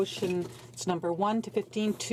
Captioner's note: speaking French